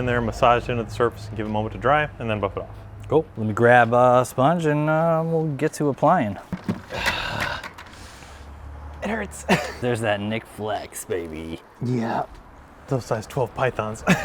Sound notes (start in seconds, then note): 6.4 winces